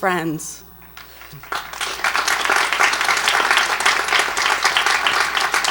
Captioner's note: audience applauds